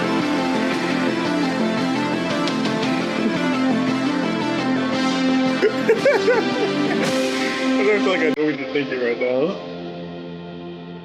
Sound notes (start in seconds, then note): 5.6 laughs